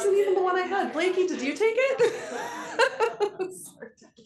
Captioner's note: laughs